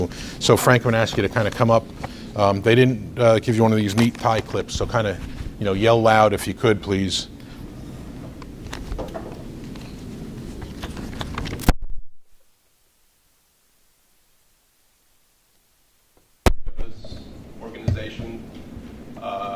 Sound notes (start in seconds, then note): 10.7 microphone clicks